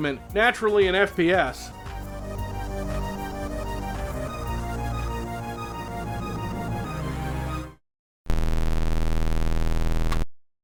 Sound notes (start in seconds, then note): 8.3 malfunction sound